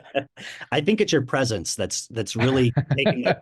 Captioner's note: chuckles; laughs